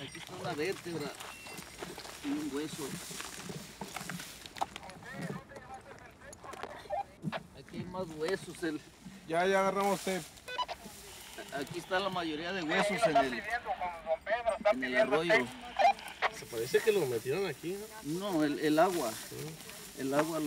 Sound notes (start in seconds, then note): 0.3 crew member speaks Spanish; 7.6 crew members speak Spanish; 13.0 man on radio speaks Spanish; 15.3 crew members speak Spanish